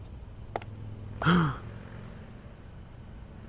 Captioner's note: gasps